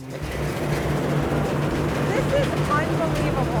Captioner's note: harvester rumbling